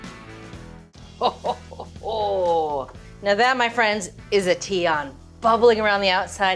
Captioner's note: chuckling